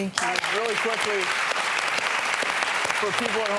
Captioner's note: audience applause